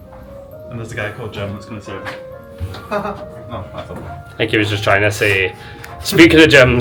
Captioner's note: sarcastic laugh